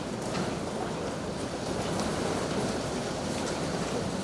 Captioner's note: none